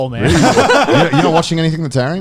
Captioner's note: laughing